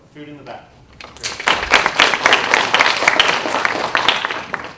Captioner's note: applause